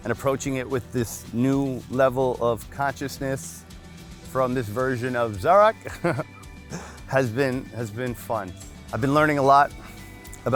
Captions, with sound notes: and approaching it with this new level of consciousness, from this version of Zark, (chuckles) has been, has been fun. I've been learning a lot,